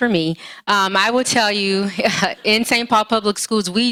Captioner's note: laughs